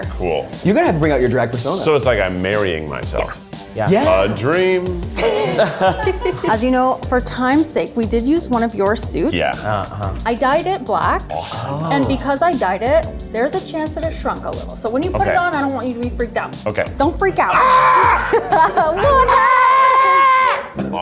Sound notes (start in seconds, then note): 5.1 all laughing; 17.5 yells; 17.5 laughs